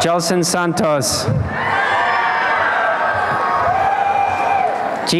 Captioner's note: applause and cheering